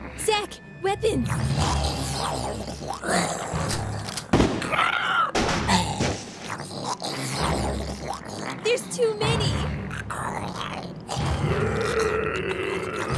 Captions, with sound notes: - Zack, weapons! (moroaica growling and snarling) (guns firing) There's too many. (intense dramatic music)